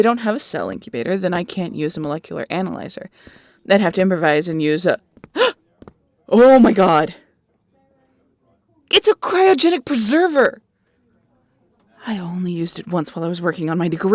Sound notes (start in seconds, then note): 6.1 gasp